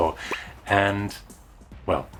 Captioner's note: pop!